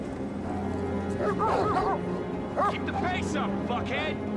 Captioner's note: dogs barking